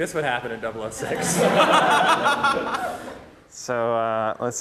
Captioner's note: laughter